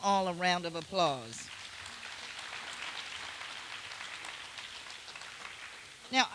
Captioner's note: applause